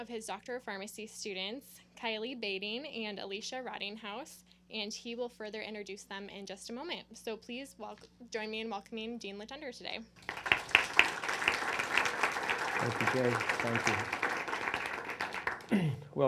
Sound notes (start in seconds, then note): 10.2 clapping